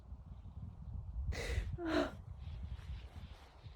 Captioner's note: sighs wearily